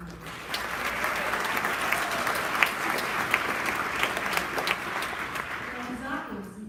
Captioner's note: applause